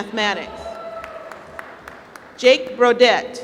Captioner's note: applause